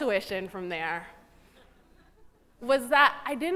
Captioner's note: chuckling